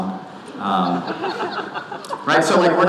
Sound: audience laughing

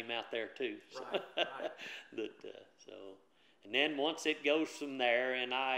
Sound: laughs

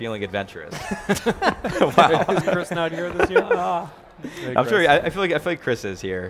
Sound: group laughing

